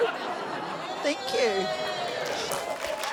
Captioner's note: scattered laughter; scattered cheering